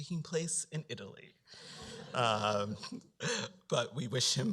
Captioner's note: laughter